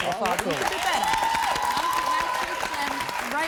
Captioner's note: applause